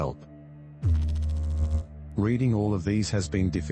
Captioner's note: electrical noise